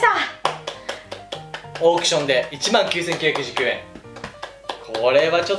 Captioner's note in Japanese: 拍手